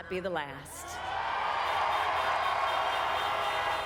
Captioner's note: cheering and applause